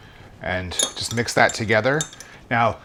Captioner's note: glass clinking